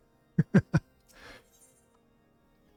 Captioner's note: laughs